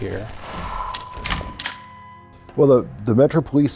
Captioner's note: gun clicks, reloading